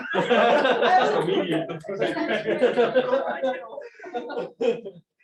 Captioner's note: laughter